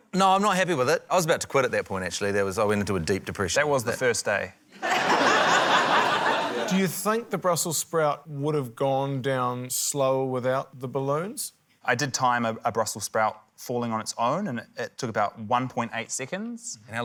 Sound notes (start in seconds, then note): 4.7 laughter